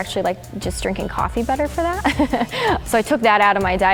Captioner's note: laughing